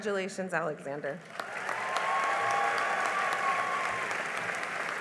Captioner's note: cheering and applause